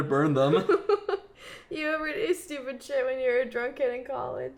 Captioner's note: laughs